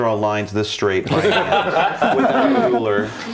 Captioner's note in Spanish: risas